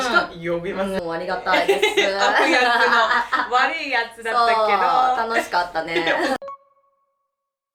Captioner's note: laughs